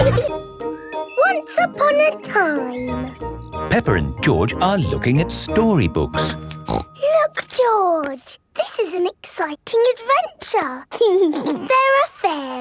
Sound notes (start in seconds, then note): 6.3 snorts; 11.0 giggles